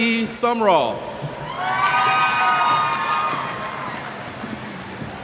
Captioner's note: cheers